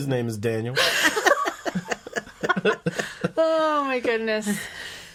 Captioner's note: laughing